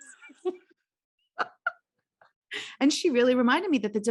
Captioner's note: both laughing